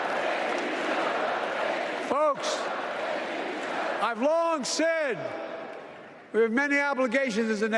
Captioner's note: applause